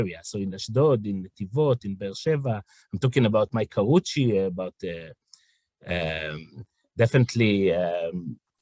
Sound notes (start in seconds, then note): 5.0 hebrew